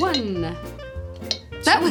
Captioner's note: clinks